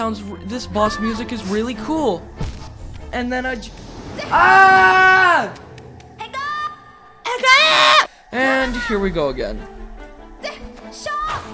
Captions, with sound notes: This boss music is really cool. And then I just- *Far away scream* And here we go again.